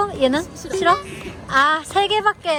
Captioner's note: laughs